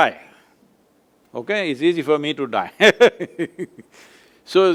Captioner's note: laughs